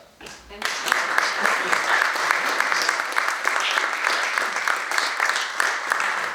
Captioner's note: audience applauds